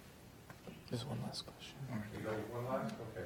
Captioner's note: voiceover